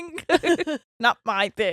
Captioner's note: both laughing